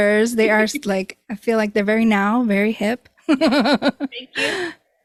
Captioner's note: laughs